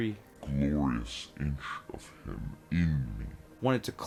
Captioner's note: deep voice, even more slowed down